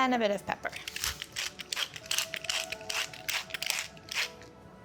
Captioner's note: pepper mill grinding